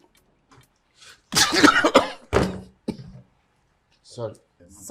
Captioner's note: sneezes